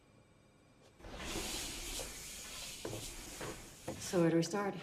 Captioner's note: sliding door whooshing